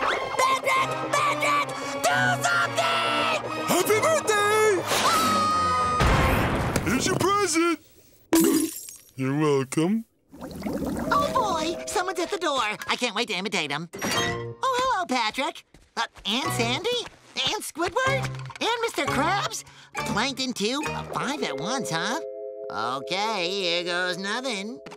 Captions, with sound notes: Patrick! Patrick! Do something! Happy birthday. [screaming] [thudding] Here's your present. You're welcome. Oh, boy, someone's at the door. I can't wait to imitate 'em. Oh, hello, Patrick. And Sandy? And Squidward? And Mr. Krabs? Plankton too? Five at once, huh? Okay, here goes nothing.